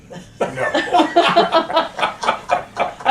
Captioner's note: laughter